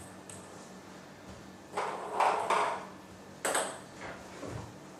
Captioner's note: balls ping pong hitting continues